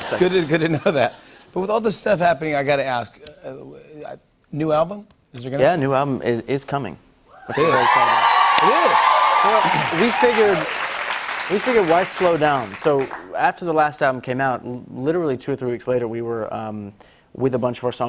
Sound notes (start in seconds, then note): 7.4 cheers and applause